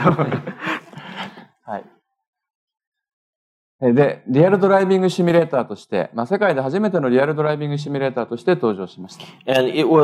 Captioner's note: speaking japanese